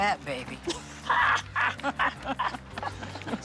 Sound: both laugh

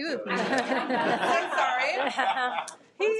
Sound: people laughing

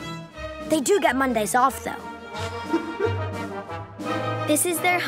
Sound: laughs

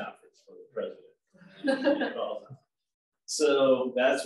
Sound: laughs

